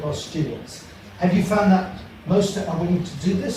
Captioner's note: speaking faintly